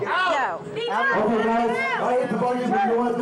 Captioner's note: shouting